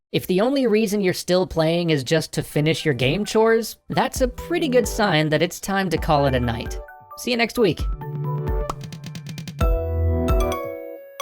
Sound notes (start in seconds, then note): 3.9 outro music starts; 8.6 pop sound